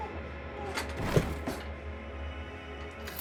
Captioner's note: knives clattering; tense music